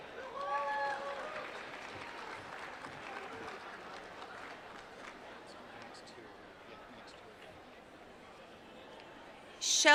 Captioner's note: applause